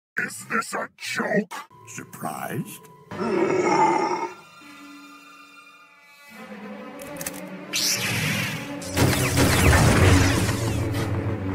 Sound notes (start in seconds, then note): 3.2 growls